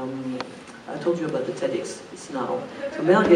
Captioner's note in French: rires